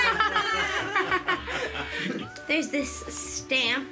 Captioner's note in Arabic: ضحك